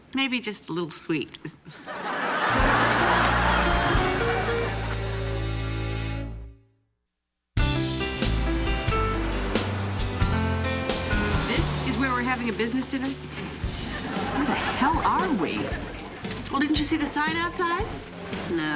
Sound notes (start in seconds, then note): 1.7 audience laughing; 7.9 soft music